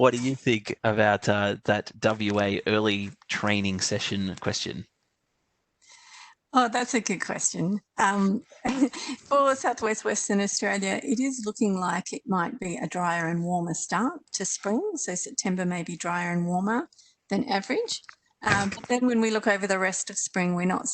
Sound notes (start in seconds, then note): 8.5 chuckles